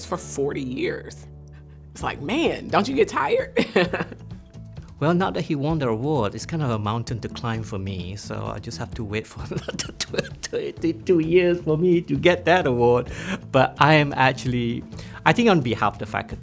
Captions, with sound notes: for 40 years, it's like, man, don't you get tired? (laughing) - Well, now that he won the award, it's kind of a mountain to climb for me. So I just have to wait for another 22 years for me to get that award. But I am actually, I think on behalf of the faculty,